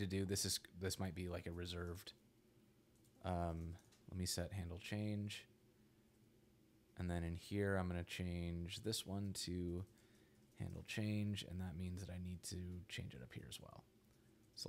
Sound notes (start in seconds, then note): none